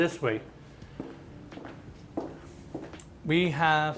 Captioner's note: footsteps clicking